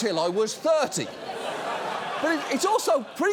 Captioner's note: studio audience laughing